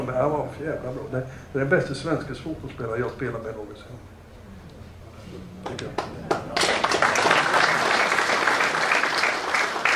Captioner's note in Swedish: Applåd